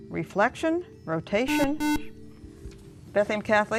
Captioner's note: beeping